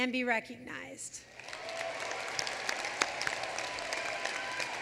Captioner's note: applause